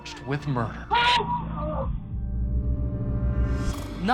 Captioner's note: shouting